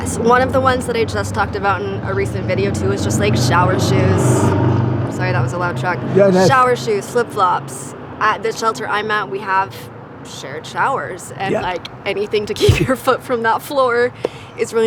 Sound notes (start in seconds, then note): 4.4 truck rumbling